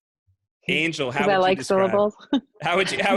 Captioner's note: Lauren laughs